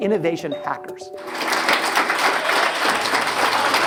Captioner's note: audience claps